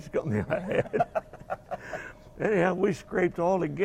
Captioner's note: both laugh